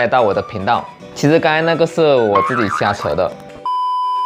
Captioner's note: haha